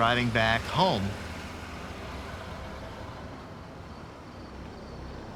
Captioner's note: insects chirping